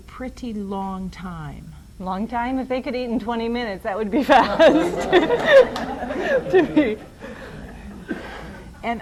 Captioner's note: laughter